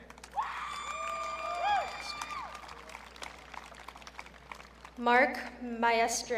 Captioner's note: audience cheering